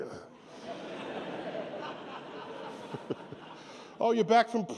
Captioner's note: laughter